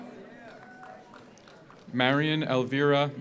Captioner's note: audience cheers; audience applauds